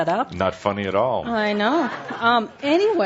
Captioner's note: laughter